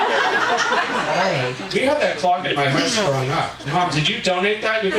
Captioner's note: audience laughing